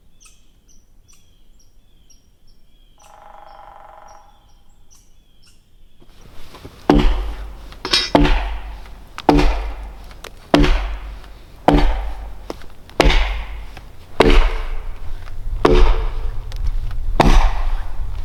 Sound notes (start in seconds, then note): 6.1 axe thudding; 6.9 thuds echoing